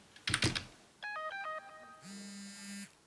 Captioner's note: cellphone